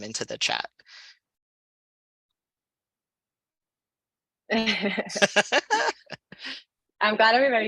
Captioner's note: laughter